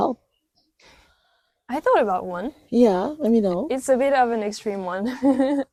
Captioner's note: laughs